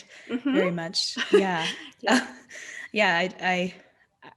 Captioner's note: laughing